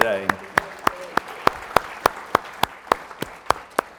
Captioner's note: audience clapping